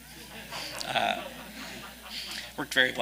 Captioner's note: audience laughing